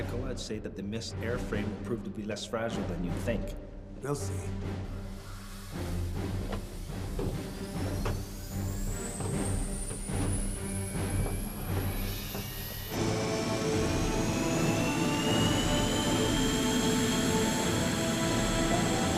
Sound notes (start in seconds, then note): 5.7 dramatic music; 8.7 engine buzzing; 12.9 suspenseful music; 15.5 airplane buzzing